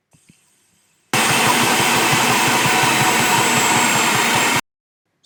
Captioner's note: stand mixer whirring even louder